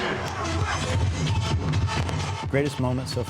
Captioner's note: upbeat music; fireworks popping